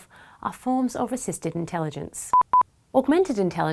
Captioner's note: quick beeping